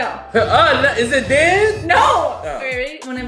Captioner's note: groans